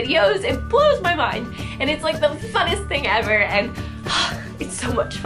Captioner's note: sighs